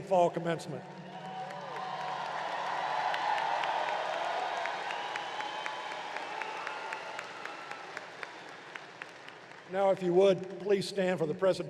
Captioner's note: applause